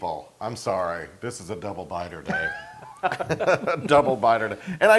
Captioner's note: laugh